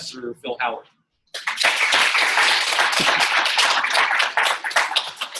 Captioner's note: audience clapping